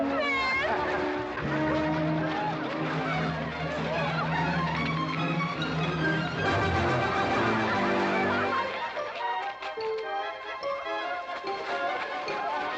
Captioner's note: amused crowd noises